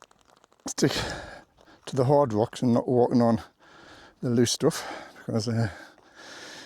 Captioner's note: sighs